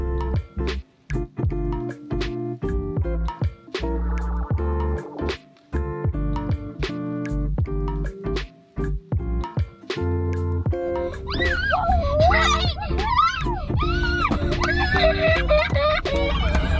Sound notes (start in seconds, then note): 11.0 kids cheering